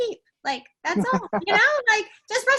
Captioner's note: laughing